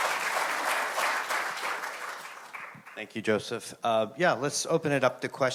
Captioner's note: audience applauding